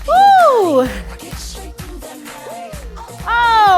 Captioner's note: screams; woo